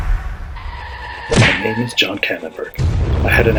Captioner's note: screeching tyres, impact; voiceover